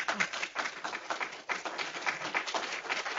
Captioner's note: applause